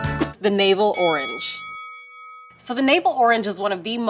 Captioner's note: bell dings